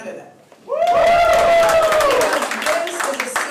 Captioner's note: applause